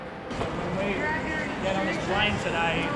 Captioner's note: people chattering